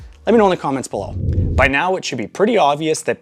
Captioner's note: air whooshing